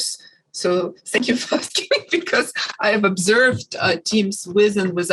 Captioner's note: laughs